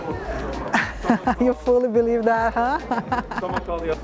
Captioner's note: laughs